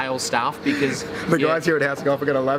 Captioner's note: laughing